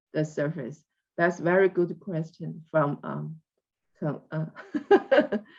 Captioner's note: laughs